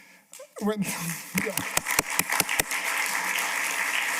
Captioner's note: applause